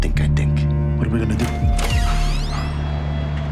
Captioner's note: door creaking; low moody music continues